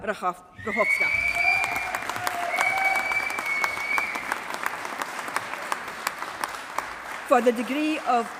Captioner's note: applause